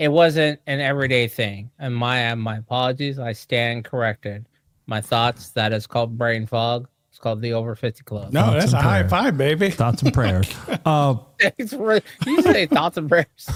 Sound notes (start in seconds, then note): 12.0 laughter